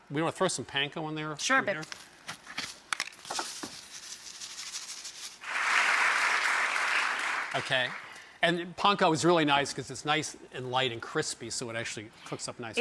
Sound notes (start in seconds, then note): 5.4 audience applauds